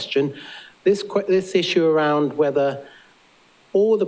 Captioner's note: none